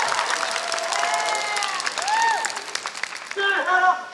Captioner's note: applause